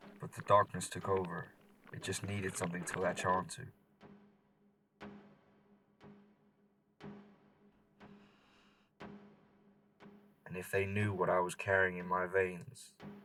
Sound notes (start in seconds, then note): 8.1 deep inhale